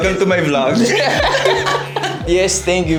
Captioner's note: laughs